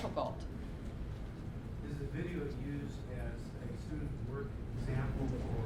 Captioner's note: voiceover